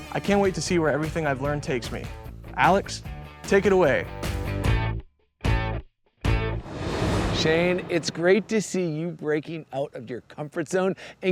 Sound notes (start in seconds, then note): 4.2 upbeat music continues; 6.4 graphics whooshing